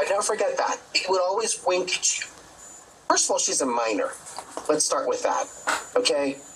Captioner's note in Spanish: hablan en ingés